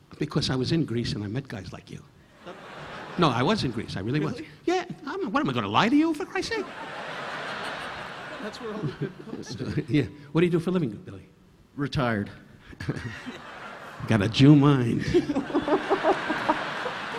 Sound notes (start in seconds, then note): 2.4 audience laughing; 6.6 audience laughing; 12.8 Don chuckling; 12.9 audience laughing; 15.0 laughing